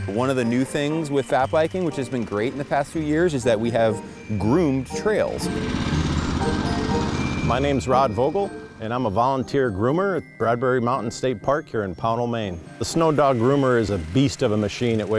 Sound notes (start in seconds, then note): 5.8 engine rumbling; 5.8 gentle music